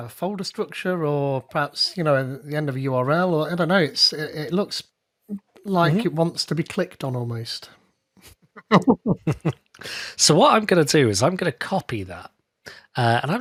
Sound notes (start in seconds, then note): 8.6 both laughing